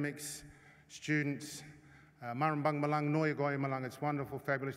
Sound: non-english speech

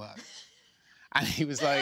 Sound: laughing

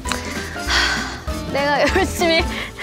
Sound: letting out a sigh from deep within

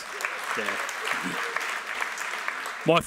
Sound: applause

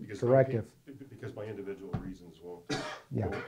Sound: voiceover

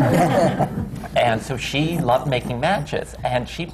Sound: laughter

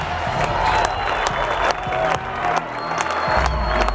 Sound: cheering and applause

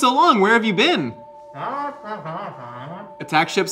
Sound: Glorp-Glorp exclaims

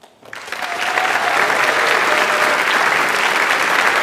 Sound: audience applauds

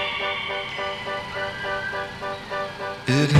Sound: distant scream

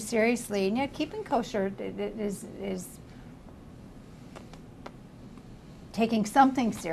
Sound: pauses for 3 seconds

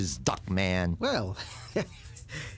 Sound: nervous laugh

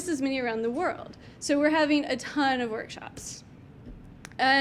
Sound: clicks mouse button

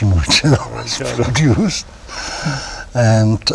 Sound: laughter

